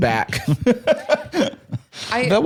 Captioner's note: laughs